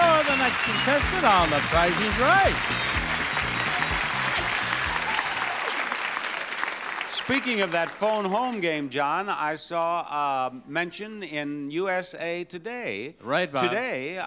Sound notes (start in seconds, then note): 2.6 audience applauding; 2.6 audience cheering